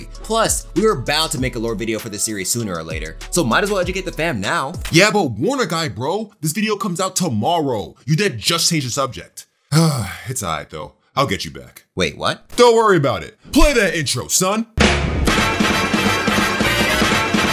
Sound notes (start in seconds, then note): 9.7 Conscience sighing